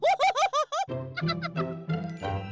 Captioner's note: giggles